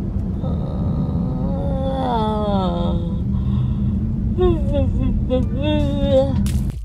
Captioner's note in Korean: 하품